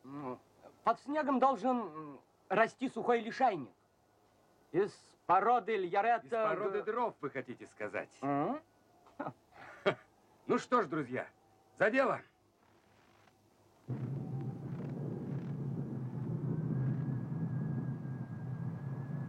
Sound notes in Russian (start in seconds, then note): 13.8 грохот